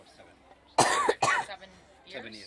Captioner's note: coughs